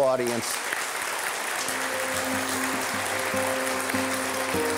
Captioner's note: applause; gentle string music